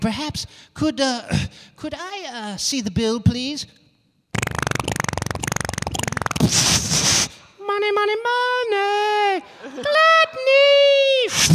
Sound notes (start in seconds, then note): 4.3 making humorous noises